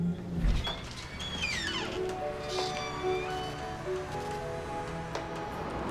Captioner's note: door squeaking; light music